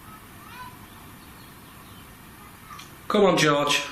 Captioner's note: child chattering